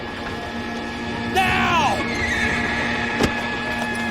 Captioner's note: horse neighs